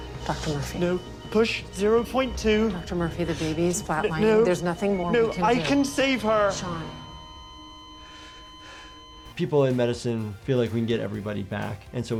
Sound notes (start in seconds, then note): 0.0 dramatic music; 7.6 machine flatlines; 8.7 sighs